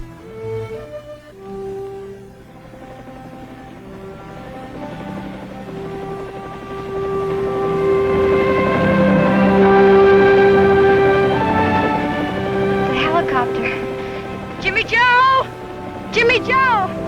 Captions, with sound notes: (gentle music) (helicopter engine roaring) - A helicopter, Jimmy-Joe, Jimmy-Joe